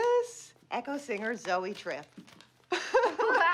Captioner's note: laughs